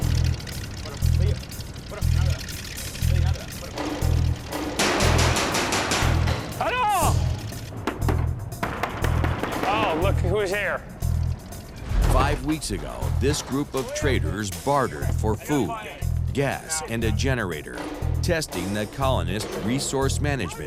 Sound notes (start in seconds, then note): 0.2 conversing in native language; 7.6 banging